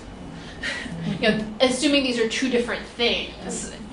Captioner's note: laughs